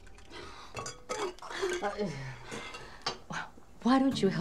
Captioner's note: Anita sighing